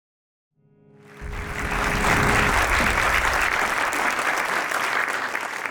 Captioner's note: audience clapping